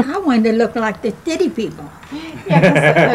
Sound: laughing

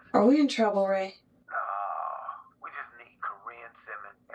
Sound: speaker phone

